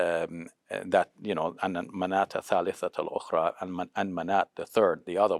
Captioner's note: speaking in foreign language